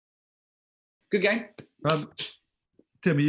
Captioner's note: clapping